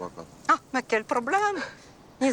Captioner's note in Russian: говорит по-французски